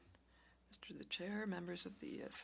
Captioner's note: speaking French